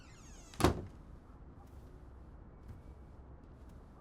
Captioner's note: door creaks; door closes